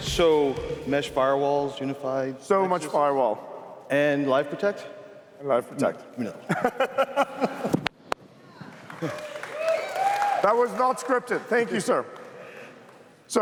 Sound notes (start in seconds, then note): 6.4 laughter; 8.4 cheers, applause